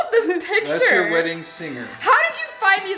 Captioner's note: male Voice